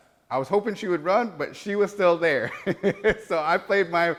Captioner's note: laugh